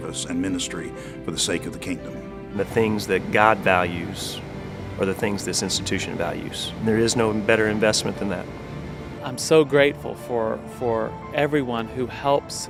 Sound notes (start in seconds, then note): 2.2 voiceover